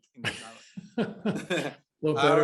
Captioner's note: laughter